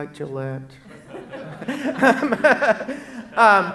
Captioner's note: laughs